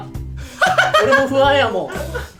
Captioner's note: laughs